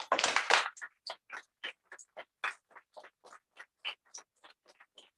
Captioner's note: applause